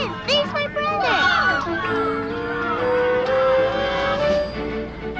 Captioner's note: children on bus cheer; upbeat lighthearted music